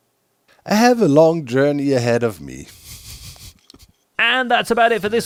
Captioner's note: chuckles